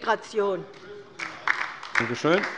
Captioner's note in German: Beifall bei der LINKEN